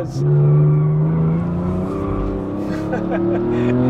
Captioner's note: car engine revving; tires screeching; laughing